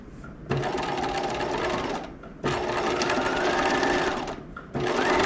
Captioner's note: sewing machine whirling